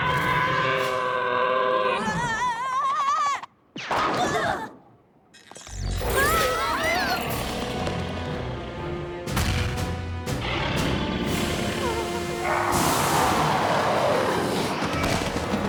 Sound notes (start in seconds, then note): 0.1 roars; 6.4 tweet!; 10.4 growling; 12.8 whimpering; 14.2 roars